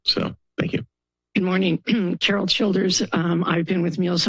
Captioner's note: clears throat